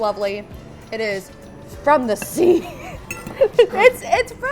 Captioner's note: chuckles